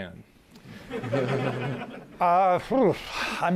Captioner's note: laughter